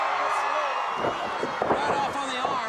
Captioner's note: crowd cheering